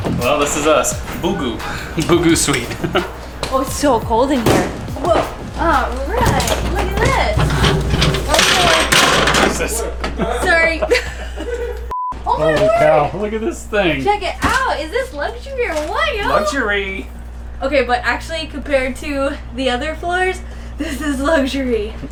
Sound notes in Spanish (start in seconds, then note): 7.3 ruido del objeto que cae; 10.1 risas